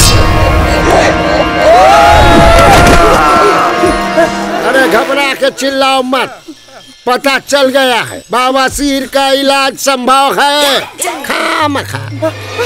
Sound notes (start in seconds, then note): 1.6 Screams